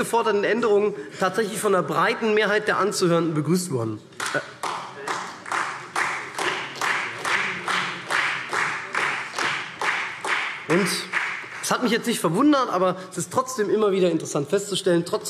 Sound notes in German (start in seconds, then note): 4.2 Beifall SPD